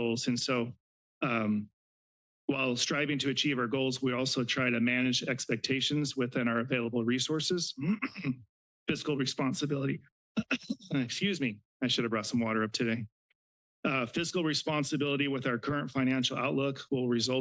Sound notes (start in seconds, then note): 7.7 clears throat; 10.3 coughs